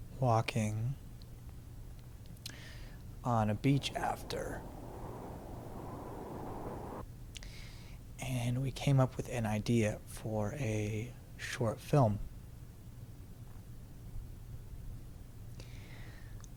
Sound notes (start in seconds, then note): 5.1 wind howls